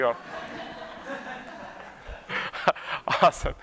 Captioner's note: laughter